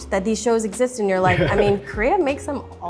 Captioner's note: laughs